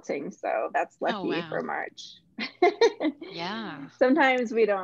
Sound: laughs

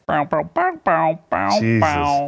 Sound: humming

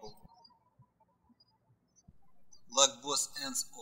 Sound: birds chirping

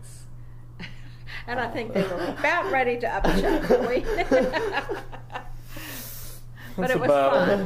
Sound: laughs

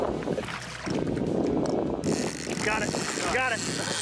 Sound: water splashing

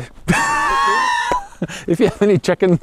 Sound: laughs

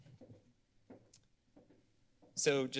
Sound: footsteps

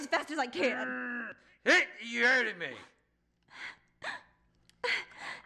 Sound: grunting

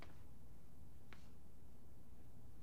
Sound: none

